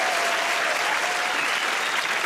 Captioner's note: cheers and applause